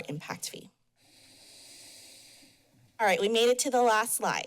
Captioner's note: pause